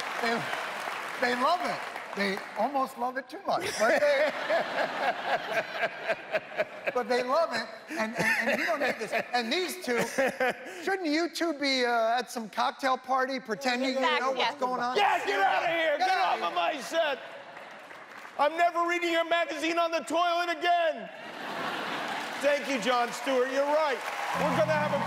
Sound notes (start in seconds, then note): 9.9 laughter